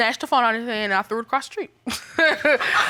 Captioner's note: laughs; audience laughs